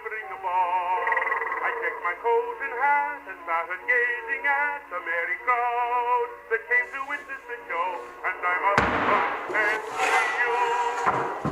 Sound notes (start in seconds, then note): 8.5 machete chopping rope and wood